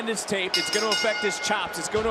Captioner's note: bell rings